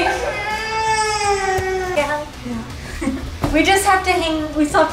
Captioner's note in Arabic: صرخات